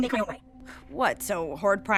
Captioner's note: scoffs